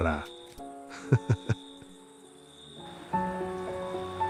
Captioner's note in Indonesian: tertawa